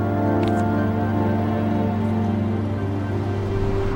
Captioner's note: picture rustling